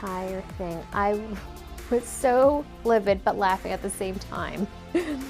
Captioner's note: chuckles